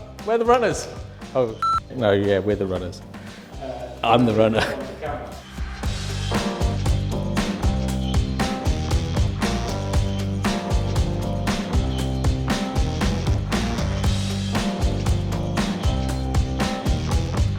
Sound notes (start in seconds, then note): 1.6 beep; 5.7 upbeat jazzy music